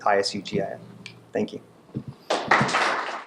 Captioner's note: class applauding